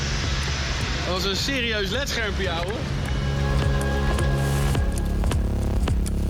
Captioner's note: speaking in foreign language